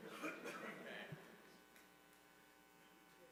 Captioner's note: laughter